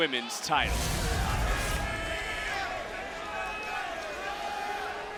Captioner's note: crowd chattering